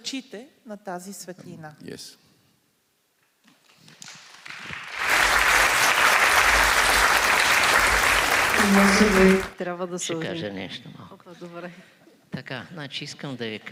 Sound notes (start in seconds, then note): 3.7 applause